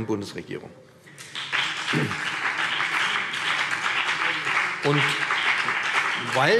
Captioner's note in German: Beifall BÜNDNIS 90/DIE GRÜNEN und vereinzelt CDU